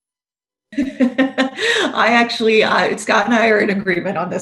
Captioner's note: laughs